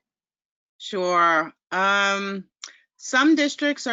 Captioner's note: voiceover